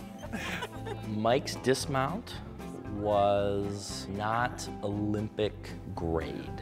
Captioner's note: laugh